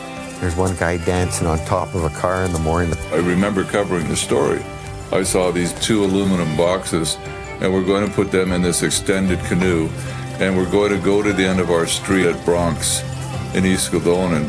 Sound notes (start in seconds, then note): 10.4 people talking in background